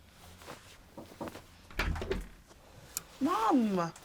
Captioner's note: soft knock on door